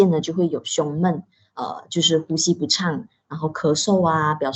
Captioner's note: shortness of breath